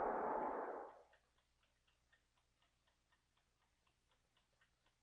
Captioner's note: clock ticking